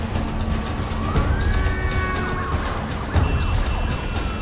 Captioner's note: siren wailing, horns honking